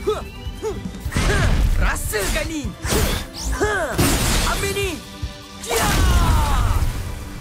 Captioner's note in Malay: berteriak